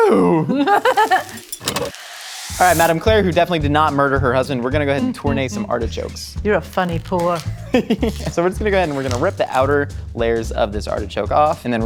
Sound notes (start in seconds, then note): 1.9 sand fizzing; 7.6 laughing